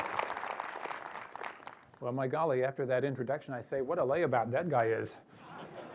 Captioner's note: applause